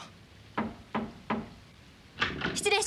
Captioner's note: knocking sound